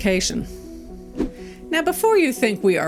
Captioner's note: air whooshing